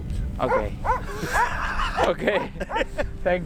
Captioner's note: laughing